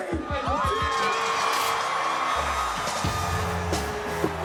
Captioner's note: crowd yells